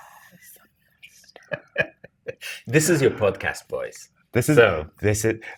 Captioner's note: laughs